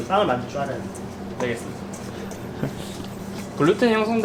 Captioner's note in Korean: 웃음